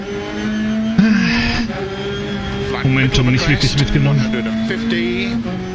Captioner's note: sighs